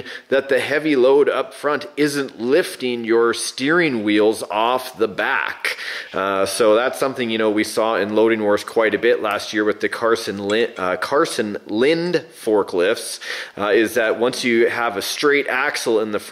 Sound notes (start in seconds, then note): none